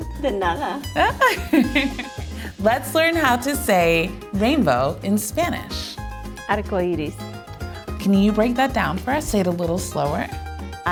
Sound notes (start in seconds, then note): 0.2 laughs